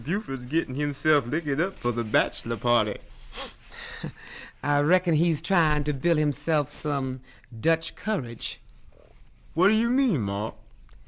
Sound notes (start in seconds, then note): 3.3 sniffles, chuckles